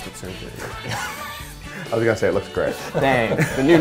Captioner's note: laughs